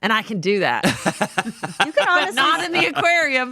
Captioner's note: laughs